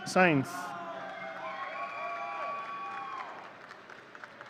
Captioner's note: audience cheering